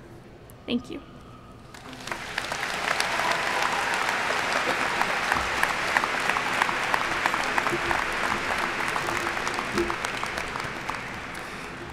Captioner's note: applauding